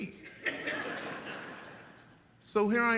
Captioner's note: audience laughs